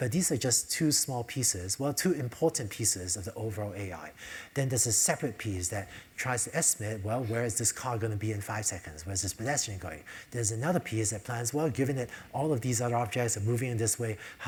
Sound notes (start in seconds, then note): none